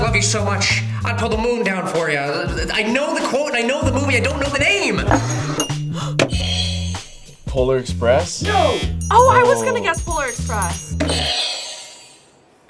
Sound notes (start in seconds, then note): 3.9 gasps; 5.2 bell rings; 6.7 buzzer rings; 11.2 buzzer rings